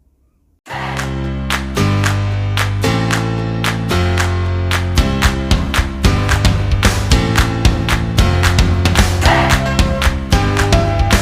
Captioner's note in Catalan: Aplaudiment